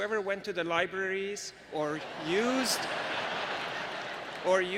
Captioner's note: laughter